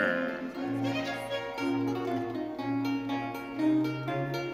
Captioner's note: audience cheering